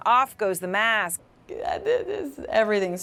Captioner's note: struggling for words